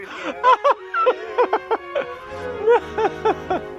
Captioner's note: laughter